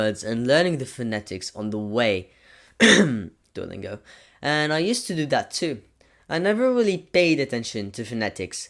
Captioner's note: sarcastic cough